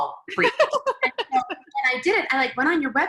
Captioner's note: laughing